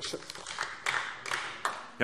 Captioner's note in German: Beifall DIE LINKE